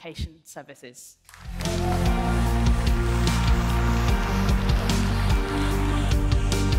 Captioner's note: audience applauding; upbeat music